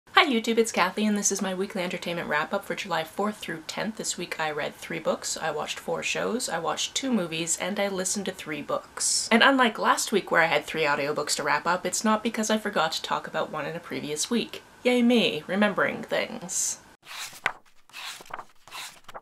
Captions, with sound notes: Hi YouTube, it's Kathy and this is my Weekly Entertainment Wrap Up for July 4th - 10th. This week I read three books, I watched four shows, I watched two movies, and I listened to three books. And unlike last week where I had three audiobooks to wrap up, it's not because I forgot to talk about one in a previous week. Yay me. Remembering things! [page turning sounds]